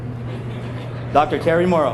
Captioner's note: all laughing